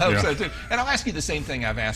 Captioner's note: laughs